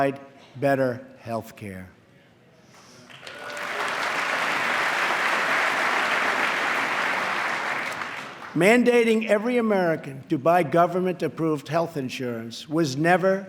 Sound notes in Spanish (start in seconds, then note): 3.0 aplauso